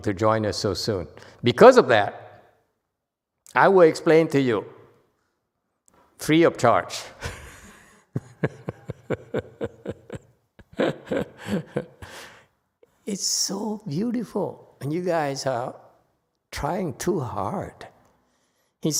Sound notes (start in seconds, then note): 7.2 laughs